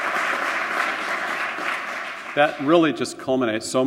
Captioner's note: applause